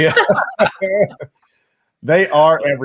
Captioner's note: laughs